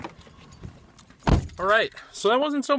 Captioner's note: door opening; door closing